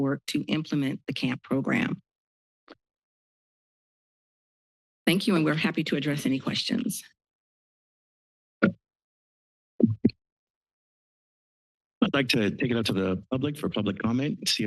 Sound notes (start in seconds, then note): 8.3 microphone thump noise; 9.8 microphone noise